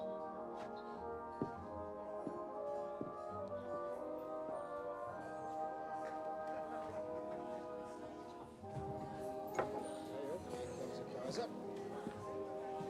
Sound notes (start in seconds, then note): 9.5 glass thuds